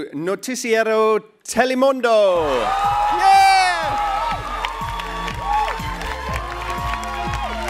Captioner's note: applause